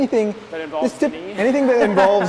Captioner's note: laughs